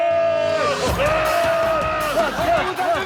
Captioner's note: shouts